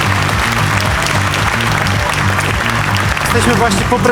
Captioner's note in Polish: aplauz